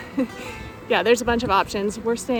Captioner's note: laugh